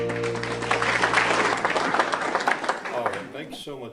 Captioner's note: audience applauding